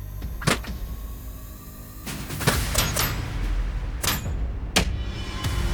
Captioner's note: armor clanking; punches thunking; dramatic music